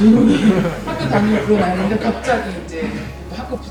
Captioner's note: everyone laughing